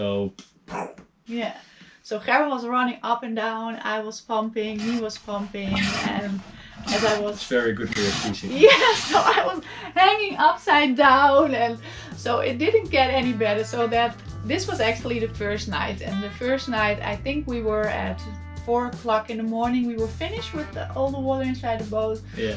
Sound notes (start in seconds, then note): 4.6 water pumping